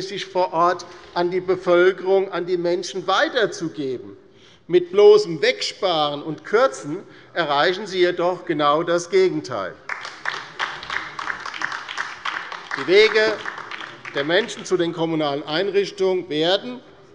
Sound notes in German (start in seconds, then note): 9.8 Beifall bei der LINKEN